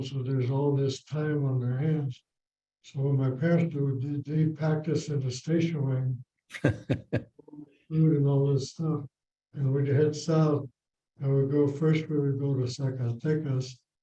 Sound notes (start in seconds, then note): 6.5 laughs